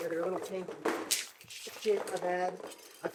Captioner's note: box thudding; lights clanking